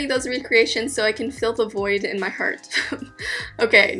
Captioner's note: sobbing, giggling